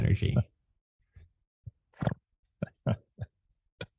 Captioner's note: laughs